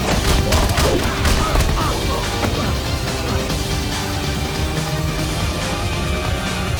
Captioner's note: upbeat techno music continues; blows thudding; henchman grunting; tense upbeat techno music